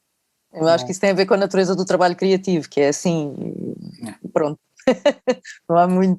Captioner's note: laughs